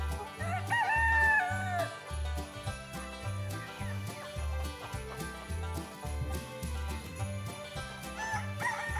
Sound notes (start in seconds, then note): 0.0 clucking; 0.4 rooster crowing